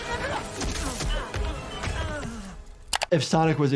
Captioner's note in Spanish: gruñidos sónicos